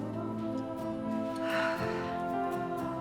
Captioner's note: Elizabeth sighs